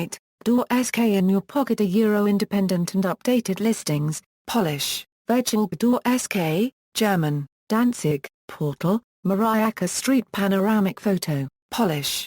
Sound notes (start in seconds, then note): 4.1 Polish; 4.7 German; 5.7 Polish